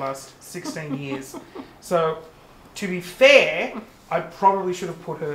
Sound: chuckles

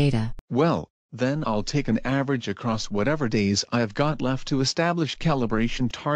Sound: whiny

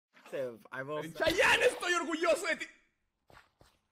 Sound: in Spanish; silence

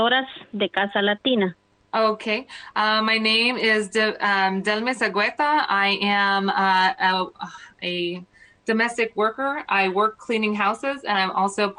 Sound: speaking foreign language

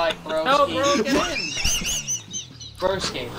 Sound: wheezing; both laughing

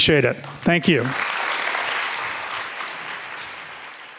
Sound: audience clapping

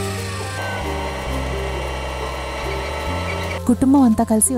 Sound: machine whirring

